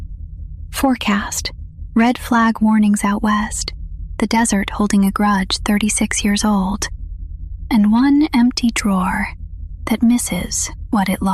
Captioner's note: whispers